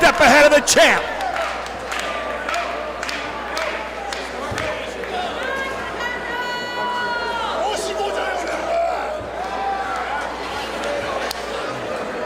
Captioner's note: applause